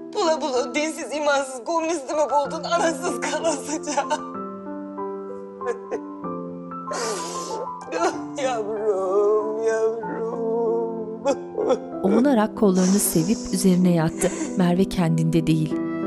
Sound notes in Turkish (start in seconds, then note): 11.2 Ağlama sesi; 15.6 Müzik - Flüt ve piyano